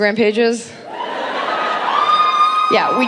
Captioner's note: audience cheering